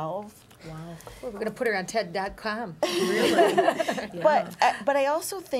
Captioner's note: laughter